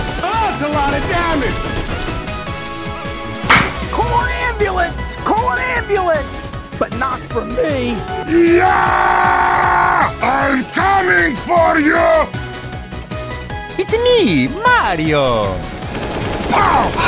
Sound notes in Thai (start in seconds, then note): 8.2 ย้าาาาาา